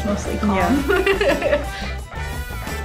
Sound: laughs

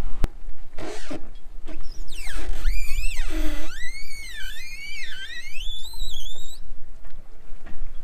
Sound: launch boat sounds

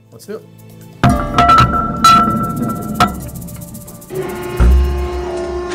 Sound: metal clanking; machine whirring

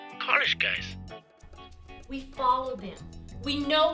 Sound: voiceover

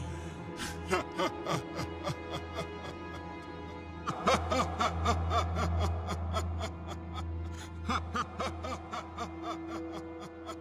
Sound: evil Laugh

